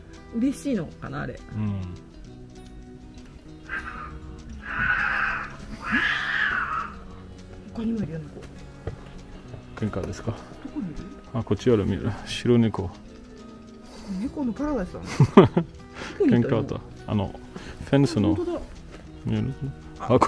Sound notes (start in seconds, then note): 3.6 the sound of an angry cat